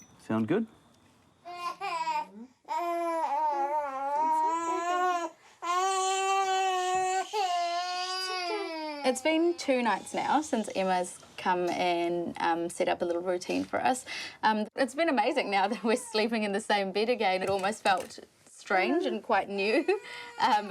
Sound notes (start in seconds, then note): 1.4 baby cries; 3.7 speaks softly, gently; 5.7 continues crying